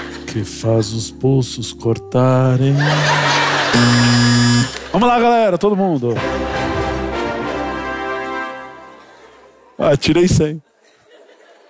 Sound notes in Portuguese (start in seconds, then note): 3.8 campainha